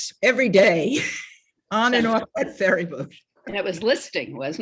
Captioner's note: laughs